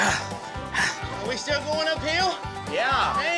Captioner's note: panting